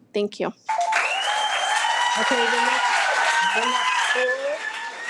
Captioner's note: audience cheering